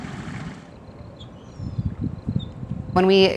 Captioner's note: desert water sounds